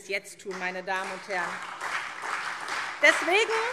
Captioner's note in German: Beifall SPD und vereinzelt DIE LINKE